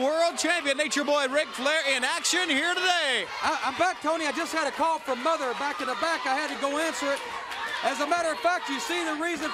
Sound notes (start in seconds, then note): 1.2 crowd cheering